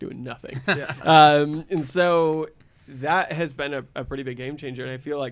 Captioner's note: laughter